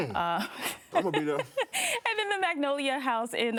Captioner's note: laughing